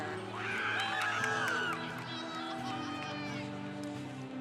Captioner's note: congregation applauding